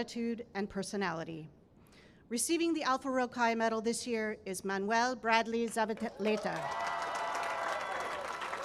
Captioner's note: cheering and applause